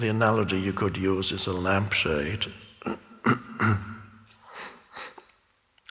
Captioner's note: clears throat